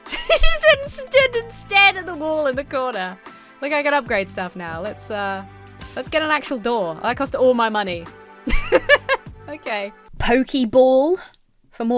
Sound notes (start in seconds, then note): 8.4 laughs